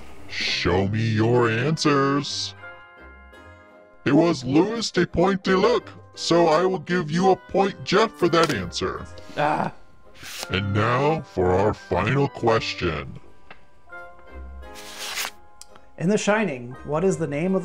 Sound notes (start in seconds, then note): 2.3 mysterious music; 8.3 card smacking; 9.3 groaning; 10.2 paper whooshing; 14.7 paper rustling; 14.7 paper whooshing